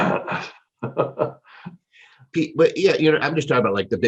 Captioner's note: laughs